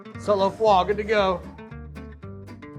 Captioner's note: speaking in French